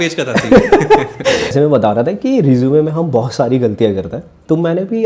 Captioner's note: laughs